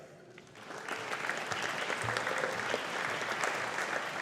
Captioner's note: audience applauding